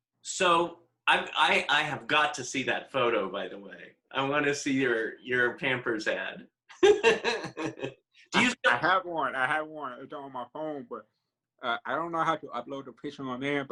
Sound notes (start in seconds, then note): 6.8 laughing